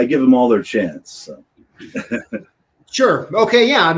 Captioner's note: laughter